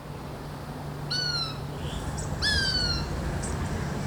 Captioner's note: birds calling